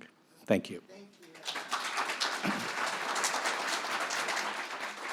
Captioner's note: audience applauds